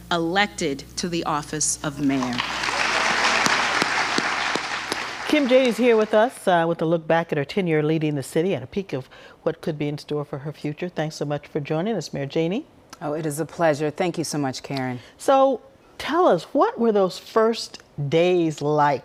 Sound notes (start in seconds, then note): 7.0 applause